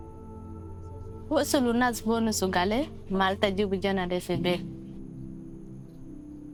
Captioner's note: speaking in foreign language